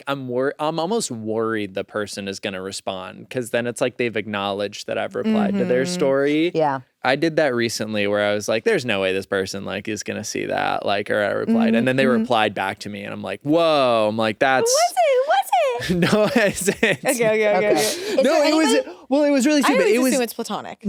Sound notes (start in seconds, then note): 15.7 laughs